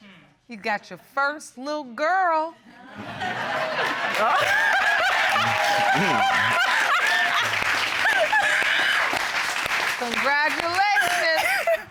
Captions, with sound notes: You got your first little girl. [laughter] Congratulations.